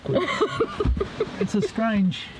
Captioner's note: laughs